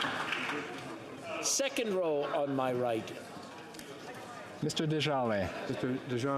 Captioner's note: some Applause